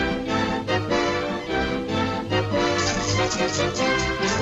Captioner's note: lively music; salt rattling; lively music